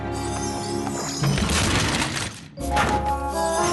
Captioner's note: crash